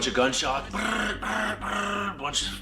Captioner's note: imitates gunfire bursting